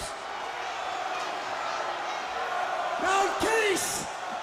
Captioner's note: crowd chatter